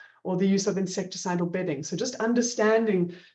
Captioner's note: none